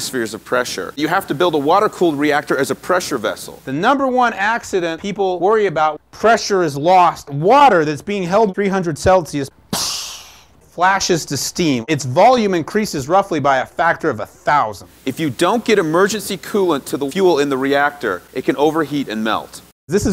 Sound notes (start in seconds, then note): 9.7 makes splashing sound